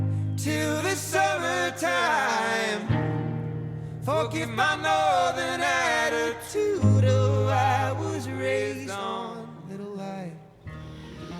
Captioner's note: birds chirping; laughing